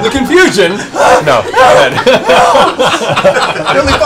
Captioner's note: shrieking